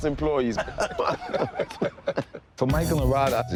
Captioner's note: all laugh